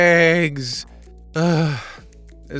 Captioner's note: sigh